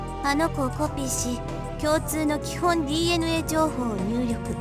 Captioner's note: none